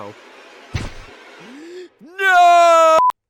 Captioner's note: inhales